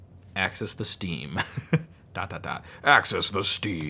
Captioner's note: laughs